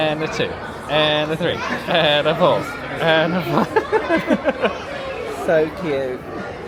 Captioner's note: laughs